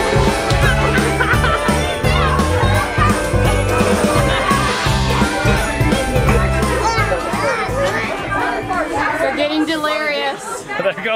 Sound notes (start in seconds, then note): 3.7 laugh